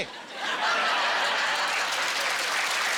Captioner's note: laughing and applauding